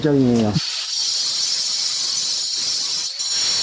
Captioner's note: cutting stone